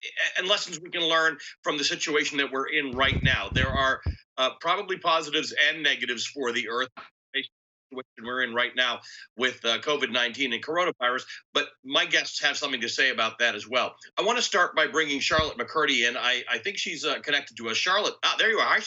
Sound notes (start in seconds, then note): 7.1 audio cuts out